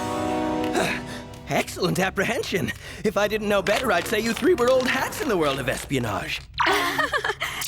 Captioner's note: gasp